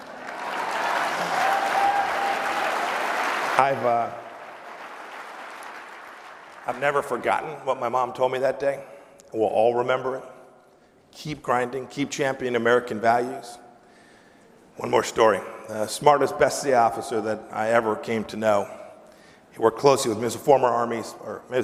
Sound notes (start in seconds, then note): 5.0 applause